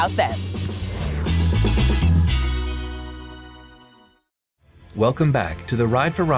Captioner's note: graphics whooshing